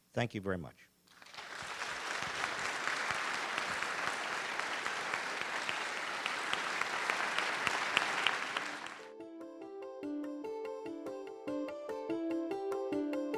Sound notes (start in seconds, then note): 1.1 audience applauding; 8.9 soft instrumental music